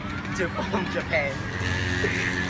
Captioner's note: inappropriately timed laugh